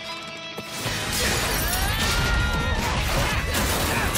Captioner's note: objects clatter